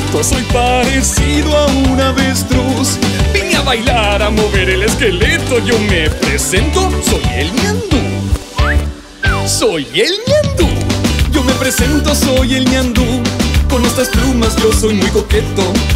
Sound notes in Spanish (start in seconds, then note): 8.5 Silbido